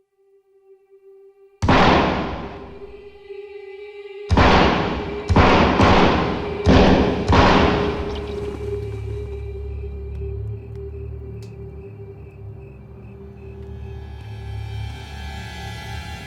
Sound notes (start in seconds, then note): 1.7 gunshots booming; 13.5 ominous music